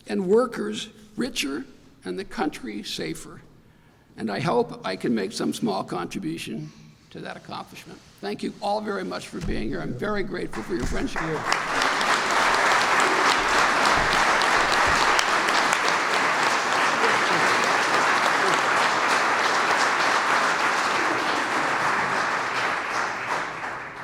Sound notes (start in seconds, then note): 11.5 applause